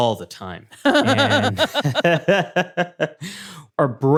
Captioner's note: laughter